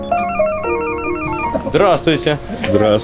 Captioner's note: income ringing